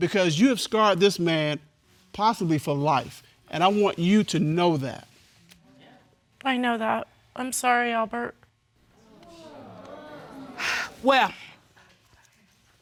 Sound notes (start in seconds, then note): 9.0 audience exclaiming